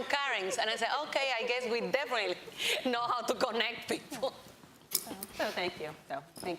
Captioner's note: laughs